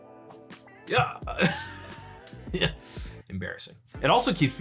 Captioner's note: laughing